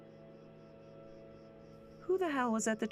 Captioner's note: crickets chirping